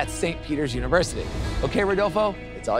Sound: graphics whoosh

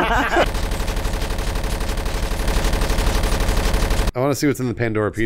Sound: laughter; continuous gunfire

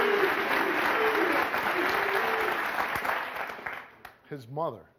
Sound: audience applauding

